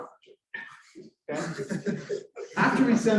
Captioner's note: laughter